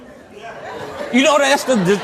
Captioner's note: audience laughs